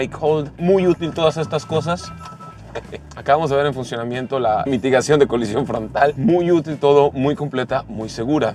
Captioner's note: alarm beeping